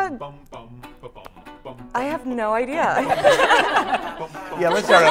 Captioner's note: laughter